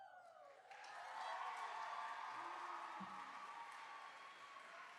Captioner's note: applause